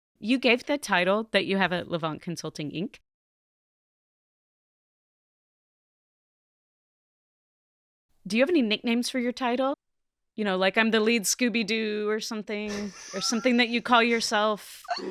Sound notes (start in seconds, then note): 12.6 laughs